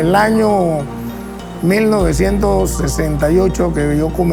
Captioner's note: speaking Spanish